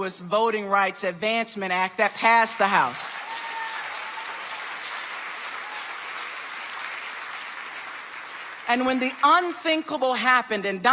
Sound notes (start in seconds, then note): 2.0 audience applauding